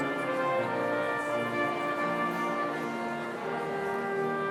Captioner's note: people chattering